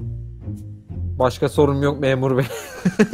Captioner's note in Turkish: Gülerek